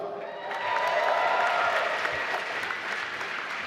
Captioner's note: applause